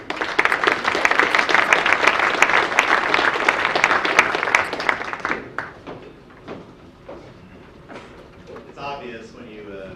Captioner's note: audience applause